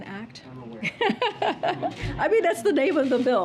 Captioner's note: laughs